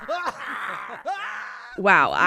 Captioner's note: imitating bear growling; screaming